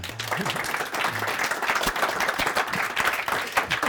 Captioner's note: audience applauding